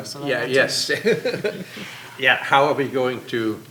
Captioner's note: laughs